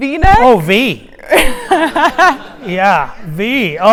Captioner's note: audience laughing